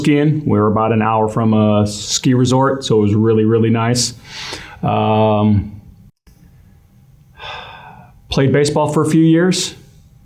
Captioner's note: sigh